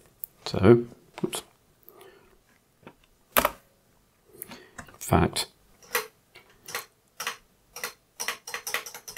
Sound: blank Audio

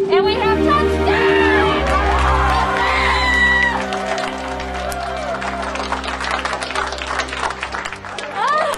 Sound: clapping and cheering

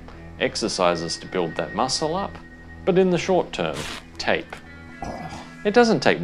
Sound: sound of tape being torn off with hair attached

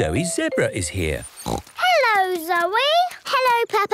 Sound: snorts

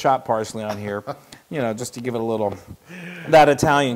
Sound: laugh

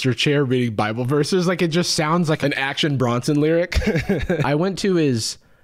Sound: chuckles

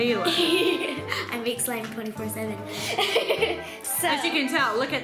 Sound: laughs; giggles

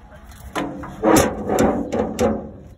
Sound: mailbox door closing

